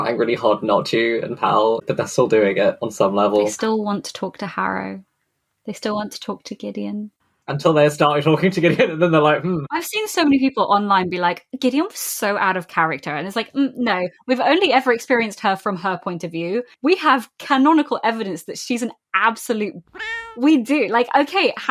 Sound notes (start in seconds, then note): 8.2 laughing